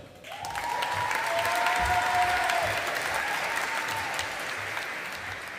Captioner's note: audience applauding